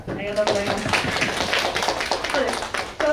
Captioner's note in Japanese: 拍手